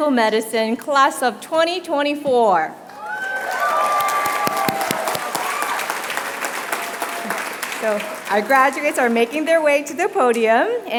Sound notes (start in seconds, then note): 3.0 applause